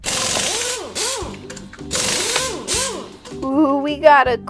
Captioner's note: car revving